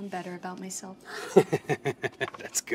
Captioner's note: Brett laughs